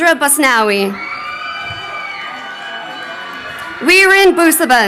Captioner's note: crowd cheering